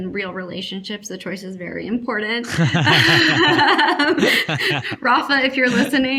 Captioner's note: all laughing